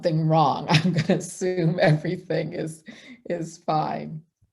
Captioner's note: chuckling